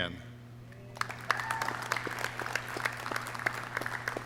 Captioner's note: clapping